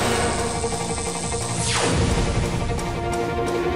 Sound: sound effects playing

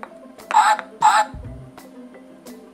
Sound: duck Sound

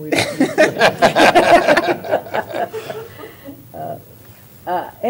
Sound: laughter

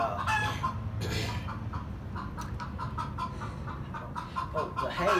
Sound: he clears his throat

